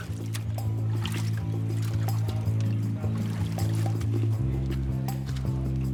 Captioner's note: water splashing; suspenseful music